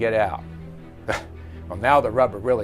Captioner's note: laughs